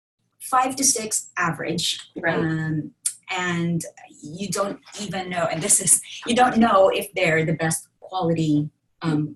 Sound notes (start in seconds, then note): 2.8 stammering